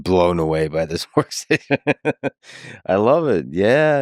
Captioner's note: Lex laughing